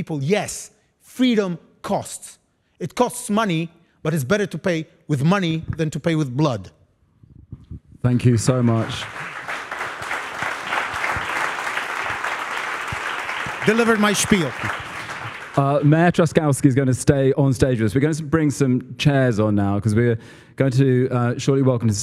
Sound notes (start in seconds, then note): 10.6 applause